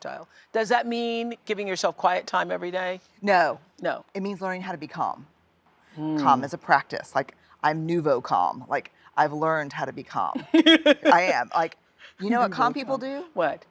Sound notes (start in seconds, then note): 10.4 laughs